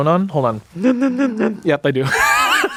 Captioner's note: inhales; everyone laughs